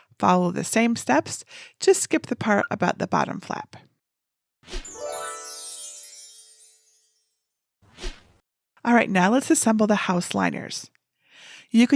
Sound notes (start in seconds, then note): 4.8 magic sparkling